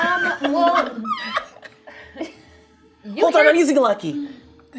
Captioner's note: laughing